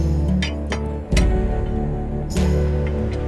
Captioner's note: tools clank; soft music